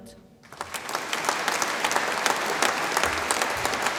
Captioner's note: audience applauds